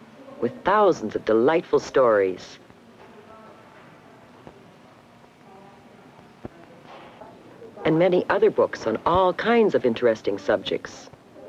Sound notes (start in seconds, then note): none